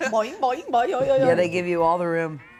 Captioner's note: imitates sound effects